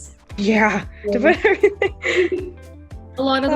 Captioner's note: laughs